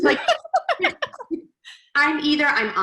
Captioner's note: laughs